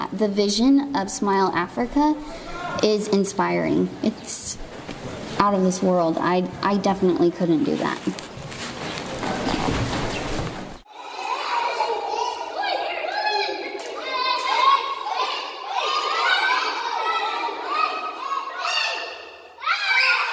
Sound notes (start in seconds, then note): 10.8 chatter